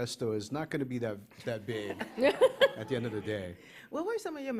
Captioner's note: laughter